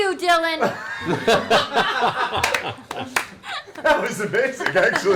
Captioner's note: all laugh